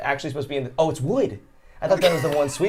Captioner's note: laughs